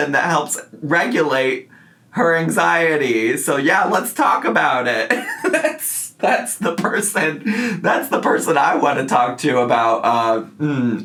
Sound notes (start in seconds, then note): 5.1 laughs